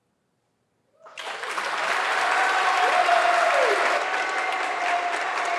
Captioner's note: audience clapping